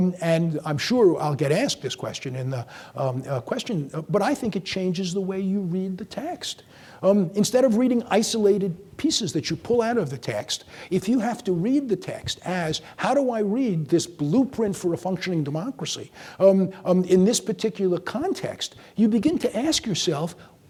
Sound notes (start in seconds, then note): none